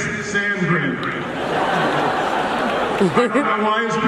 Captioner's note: crowd laughing